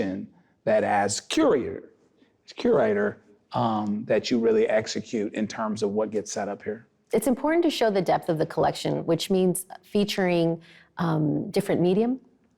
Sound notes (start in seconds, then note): none